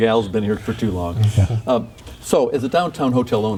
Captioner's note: laughing